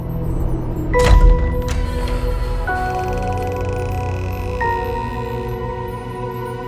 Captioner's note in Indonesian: Suara pintu Rewind Indonesia terbuka